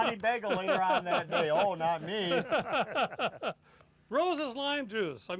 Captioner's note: laughter